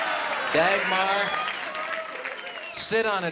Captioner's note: cheering and applause